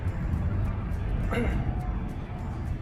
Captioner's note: clears throat